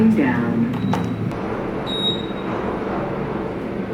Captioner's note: beeps